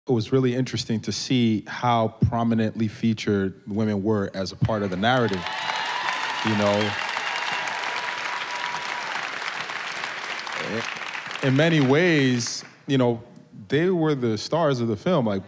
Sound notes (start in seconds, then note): 5.3 applause